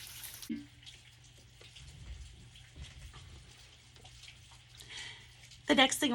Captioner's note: rain falling outside